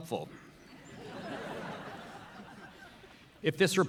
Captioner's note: audience laughing